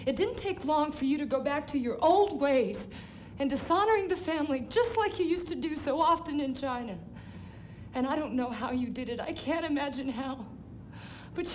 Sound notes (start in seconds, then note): none